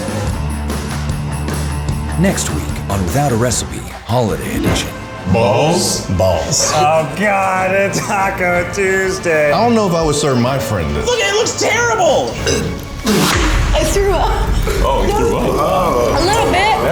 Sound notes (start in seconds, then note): 6.3 gags; 10.7 fire crackling; 11.0 dramatic music